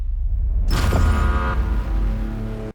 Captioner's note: buzzer noise